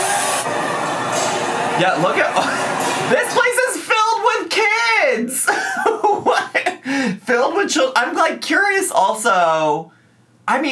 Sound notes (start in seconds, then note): 1.8 laughs; 5.2 laughs